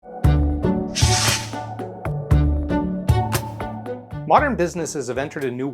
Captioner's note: light upbeat music; logo whooshing